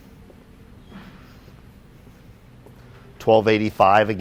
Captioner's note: footsteps